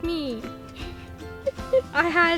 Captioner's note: laughs